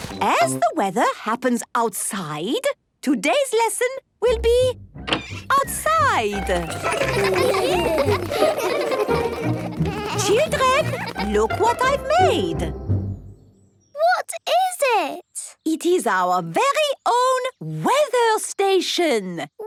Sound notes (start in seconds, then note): 6.1 laughter